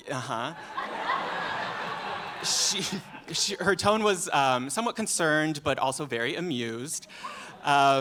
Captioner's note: laughter